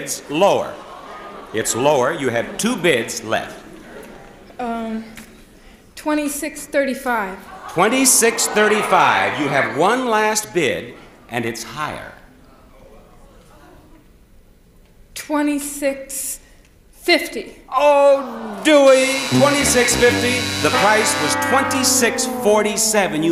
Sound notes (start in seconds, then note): 6.4 audience shouts; 17.9 audience groans; 18.7 buzzer blares